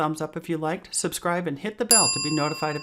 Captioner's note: bell rings